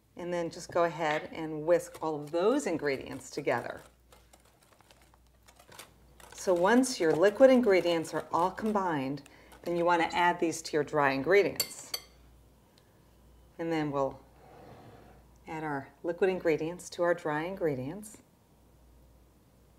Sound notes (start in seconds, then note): 4.0 stirring sounds